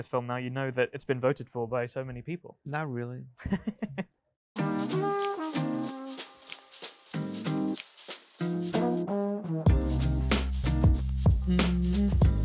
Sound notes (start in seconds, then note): 3.4 host laughs; 4.6 upbeat jazz music